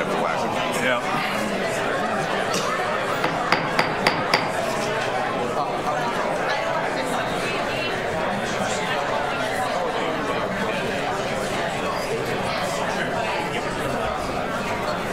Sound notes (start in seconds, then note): 3.2 gavel taps